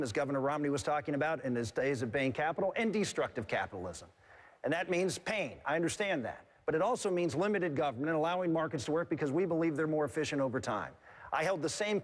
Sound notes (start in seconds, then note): none